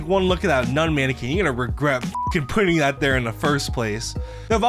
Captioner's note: beep